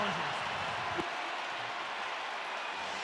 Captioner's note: crowd cheering